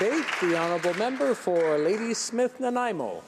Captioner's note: some Applause